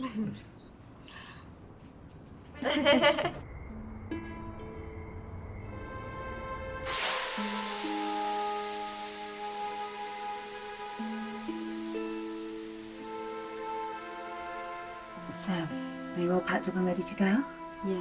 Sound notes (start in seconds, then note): 0.0 Tilly chuckling; 2.5 group laughing; 3.4 somber music; 7.0 steam hissing